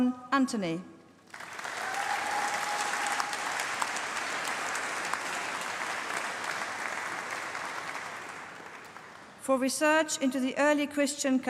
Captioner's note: applause